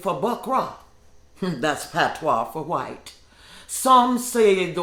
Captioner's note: scoffs